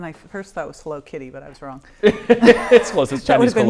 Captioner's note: laughing